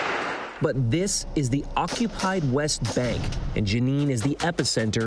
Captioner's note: gunfire